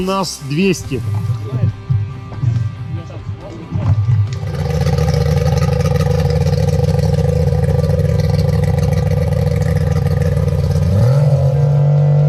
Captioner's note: engine sounds